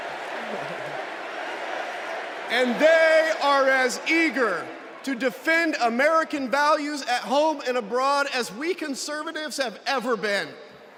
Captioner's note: crowd chanting